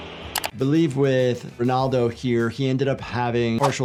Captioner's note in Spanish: clics del ratón